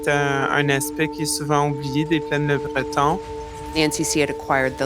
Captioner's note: sound of buildings being demolished